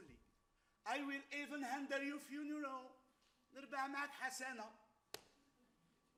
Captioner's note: speaks Arabic